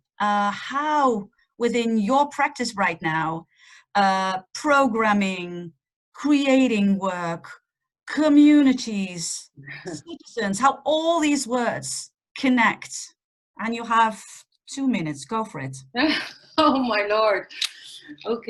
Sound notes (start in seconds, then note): 15.9 laughing